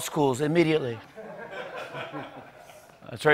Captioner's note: laughter